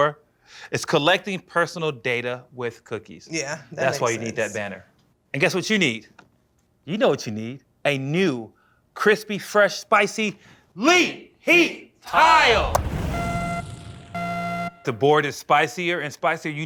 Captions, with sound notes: is collecting personal data with cookies. Yeah, that makes sense. That's why you need that banner. And guess what you need. You know what you need. A new, crispy, fresh, spicy-- LEET HEAT TILE! [buzzer] The board is spicier and spicier.